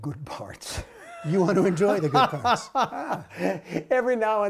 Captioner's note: laughter